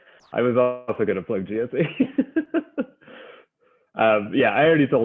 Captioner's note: laughs